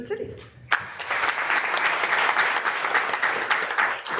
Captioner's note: members applauding